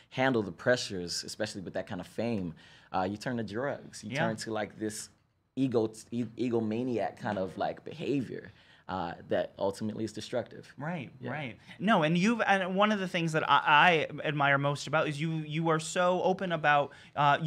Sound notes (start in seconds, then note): none